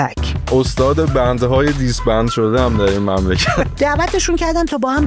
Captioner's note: laughs